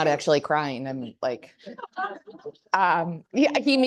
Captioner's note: audience laughing